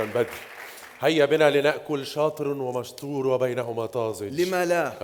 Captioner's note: in standard Arabic